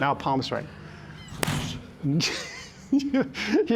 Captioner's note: laughs